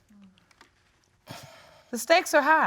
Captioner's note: sighs